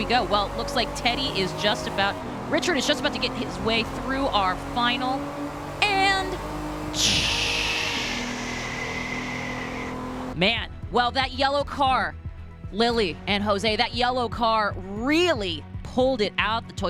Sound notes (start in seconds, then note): 6.9 blows air between teeth